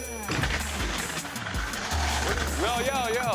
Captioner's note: loud crash